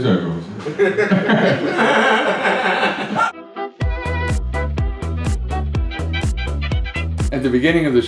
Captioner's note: laughter